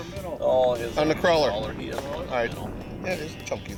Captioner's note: voiceover